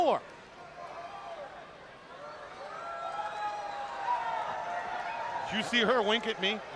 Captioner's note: crowd cheering